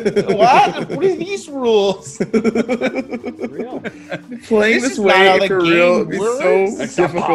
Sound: laugh

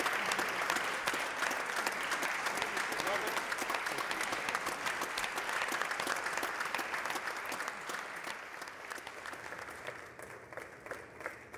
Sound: applause

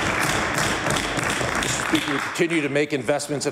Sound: applause

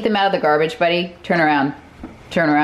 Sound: drawer closes softly

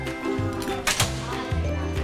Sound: door opens

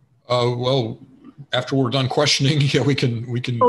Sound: chuckles

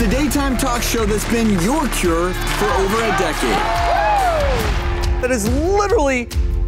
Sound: audience cheering

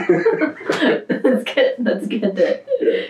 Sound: laughter

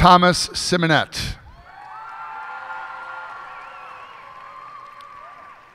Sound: cheers and applause

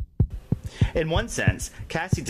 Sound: heart beats

